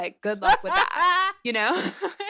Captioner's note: laughter